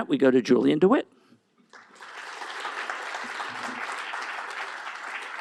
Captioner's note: applause